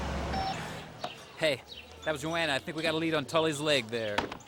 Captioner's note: phone ringing